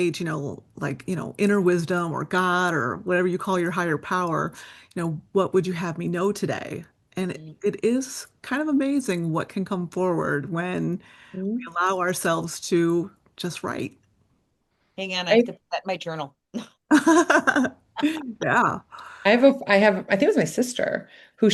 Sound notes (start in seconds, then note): 17.9 laughing